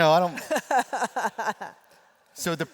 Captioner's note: laughter